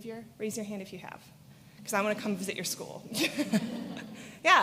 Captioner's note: laughter